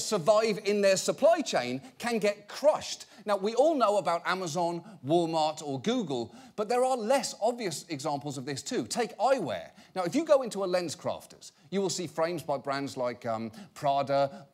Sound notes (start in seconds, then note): none